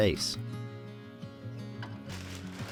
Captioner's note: plastic crinkling